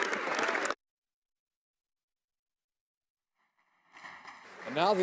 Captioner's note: applause